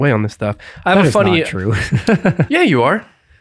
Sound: laughs

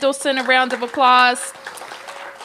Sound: applause

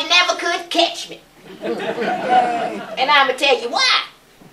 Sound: laughter

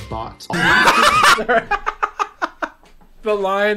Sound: laughs

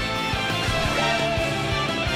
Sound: Metal Gear Solid alert sound

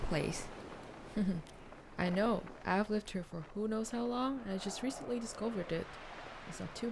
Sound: chuckles

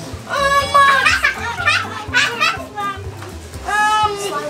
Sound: laughing

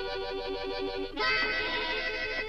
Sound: goat bleats

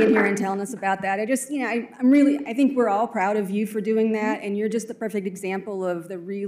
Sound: applause

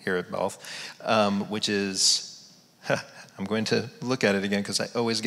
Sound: laughs

